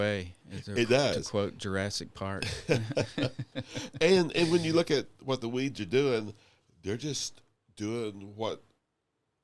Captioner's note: laughing